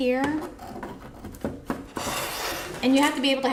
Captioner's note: pegboard scraping the table